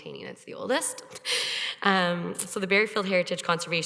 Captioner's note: chuckles